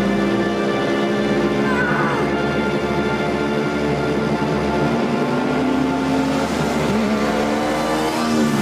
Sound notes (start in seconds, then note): 1.1 grunts